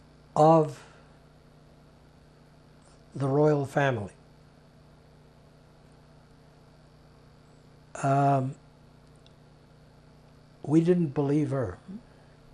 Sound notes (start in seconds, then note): 4.1 pauses 6 seconds